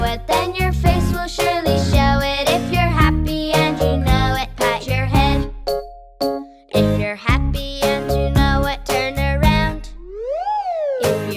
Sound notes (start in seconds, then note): 5.1 dinging